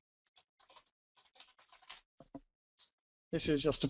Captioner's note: pause